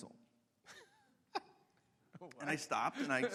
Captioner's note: laughs